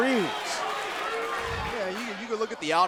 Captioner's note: crowd cheering